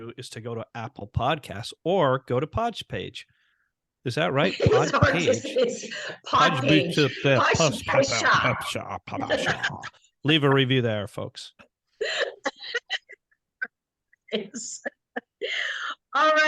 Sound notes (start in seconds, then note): 4.4 laughing; 9.1 sputtering; 12.1 laughing